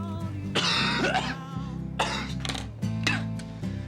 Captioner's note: coughing